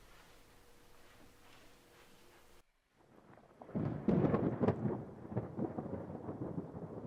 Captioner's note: thunder cracks